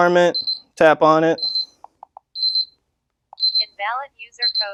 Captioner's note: beeping